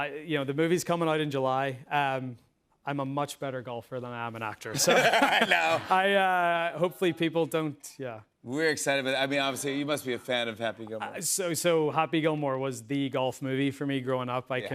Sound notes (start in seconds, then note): 4.8 laughs